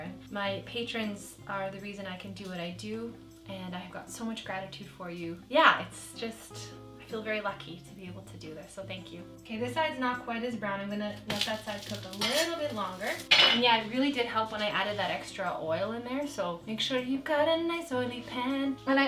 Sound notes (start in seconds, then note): none